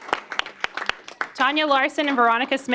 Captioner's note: applause